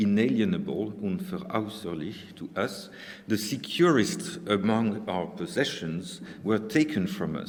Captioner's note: speaking german